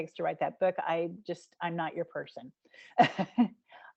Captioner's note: giggling